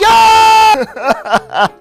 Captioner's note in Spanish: lloros